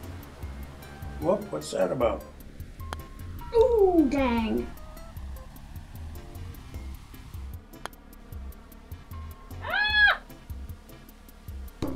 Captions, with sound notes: Whoa, what's that about? - Ooh! Dang. - (shrieks)